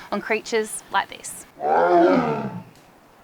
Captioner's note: tiger growls